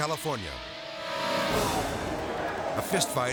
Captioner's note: inmates clamoring